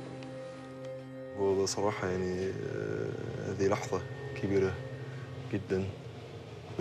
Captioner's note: speaking in a foreign language